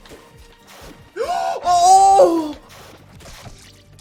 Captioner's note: loud gasp